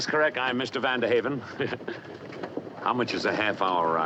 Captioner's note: chuckling